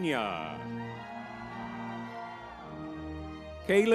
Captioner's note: lively music; crowd cheering